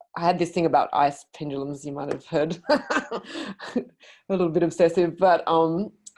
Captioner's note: laughs